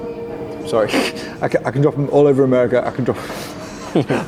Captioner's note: laughs